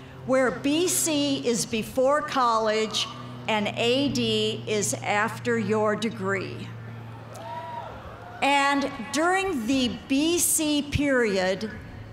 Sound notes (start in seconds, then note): 7.2 cheers and applause